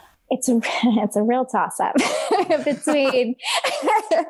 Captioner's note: laughs